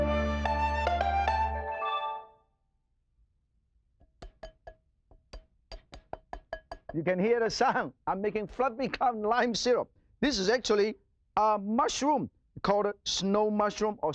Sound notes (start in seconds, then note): 0.0 upbeat music; 5.1 tapping